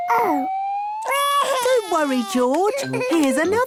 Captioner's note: crying